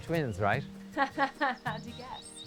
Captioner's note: laughing